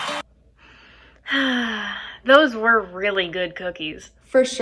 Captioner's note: sighs